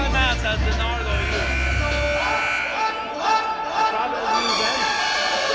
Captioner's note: buzzer blaring